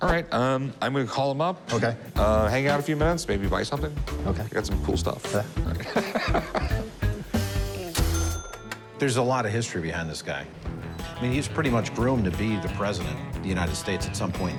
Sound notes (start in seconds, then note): 5.7 laughs